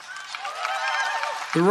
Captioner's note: applause